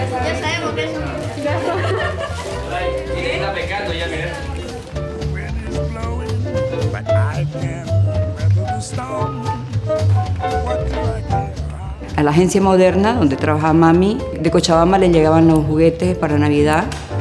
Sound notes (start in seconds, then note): 1.4 laughter